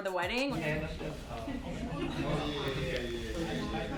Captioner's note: group chatters